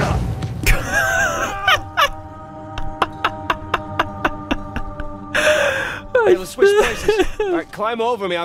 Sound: laughs

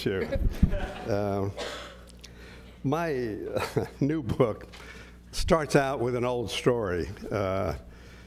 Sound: laugh

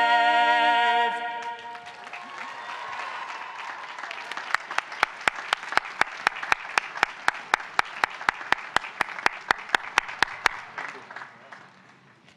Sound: applause

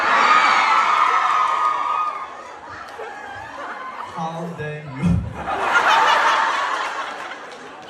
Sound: ปรบมือ

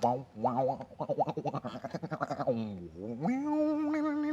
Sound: making sexy music noises

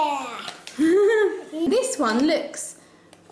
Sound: laughs

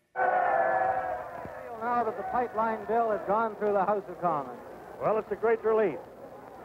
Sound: cheers and Applause

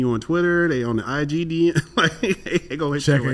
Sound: laughs

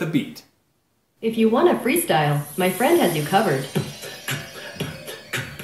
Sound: energize sound; beat boxing

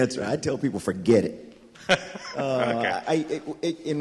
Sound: laughs

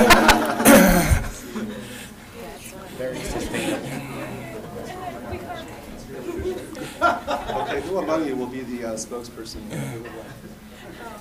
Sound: laughter

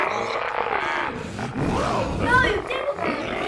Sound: demoniacal laughter; vile cackling

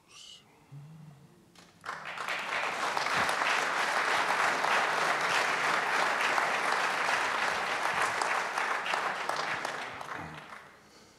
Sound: applause

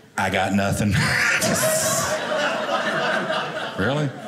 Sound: audience laughing

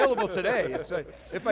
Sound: all laugh

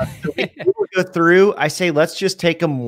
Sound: distorting muffles speaker

